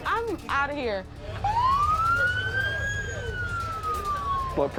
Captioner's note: sirens